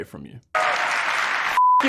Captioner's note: applause